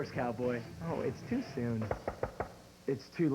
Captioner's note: knock on door